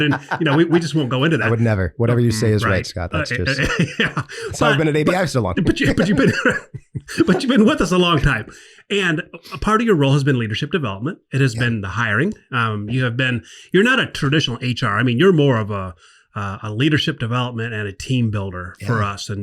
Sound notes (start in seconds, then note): 3.2 laughs; 5.4 everyone laughs